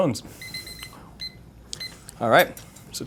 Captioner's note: timer ringing